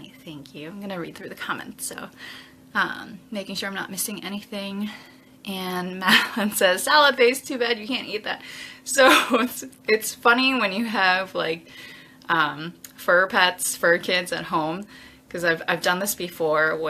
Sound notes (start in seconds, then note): 9.1 laughs